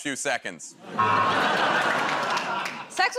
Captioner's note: laughter, buzzer